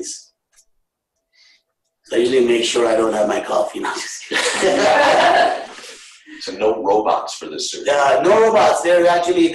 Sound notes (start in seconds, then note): 4.2 laughter